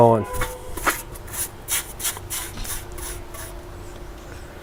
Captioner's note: brush scraping